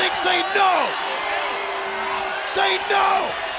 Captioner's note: crowd cheering